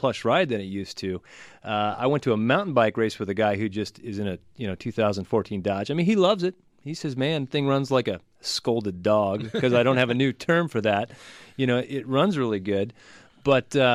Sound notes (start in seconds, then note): 9.3 laughs